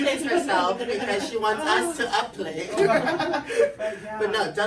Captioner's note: laughs